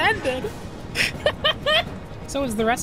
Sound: laughter

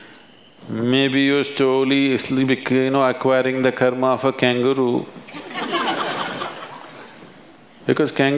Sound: laughter

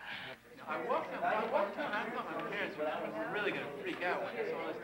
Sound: students chattering

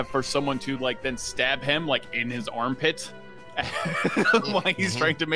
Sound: laughs

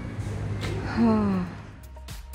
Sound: sigh

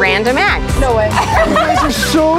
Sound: laughing

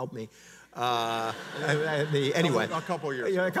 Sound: audience laughs

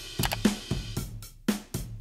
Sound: drum track playing; button clicks

